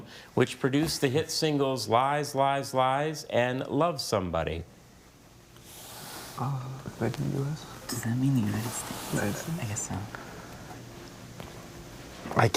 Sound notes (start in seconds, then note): none